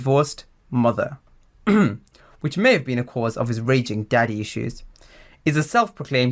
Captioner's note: ahem